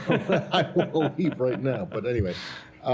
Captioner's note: laughter